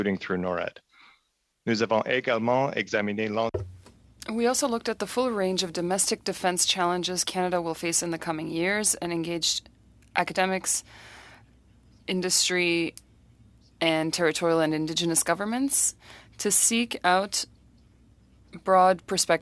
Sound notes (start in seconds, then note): 6.6 speaking French